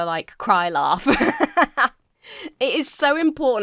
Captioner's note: laughs